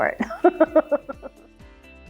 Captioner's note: bright music; laughs